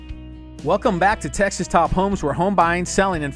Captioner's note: voiceover